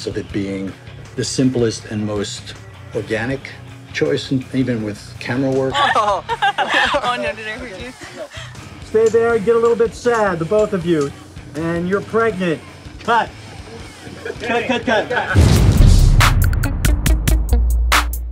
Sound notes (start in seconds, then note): 5.7 laughter